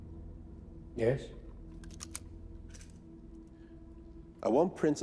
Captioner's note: camera clicks